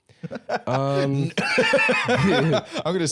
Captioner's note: laughs